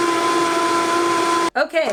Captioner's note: whirring